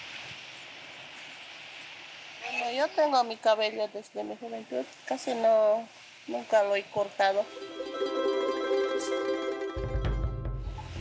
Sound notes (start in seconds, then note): 2.9 speaking in foreign language; 7.4 bright music